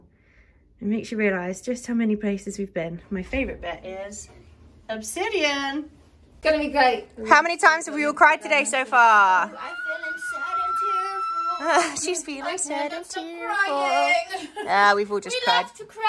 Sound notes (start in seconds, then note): 9.5 screams